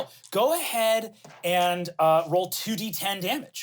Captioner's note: none